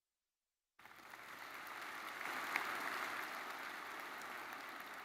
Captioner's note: audience applauds